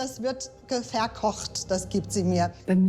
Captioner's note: speaks in German